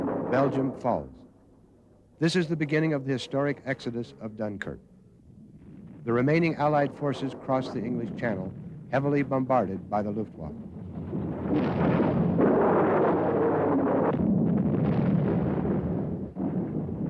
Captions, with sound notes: Belgium falls. This is the beginning of the historic exodus of Dunkirk. The remaining Allied forces cross the English Channel, heavily bombarded by the Luftwaffe. (explosions) (plane engines roar)